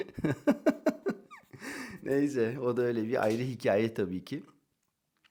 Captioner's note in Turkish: kahkaha